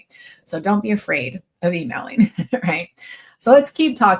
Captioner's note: chuckles